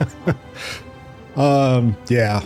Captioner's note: laughs